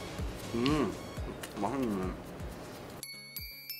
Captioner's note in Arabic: بفم ممتلئ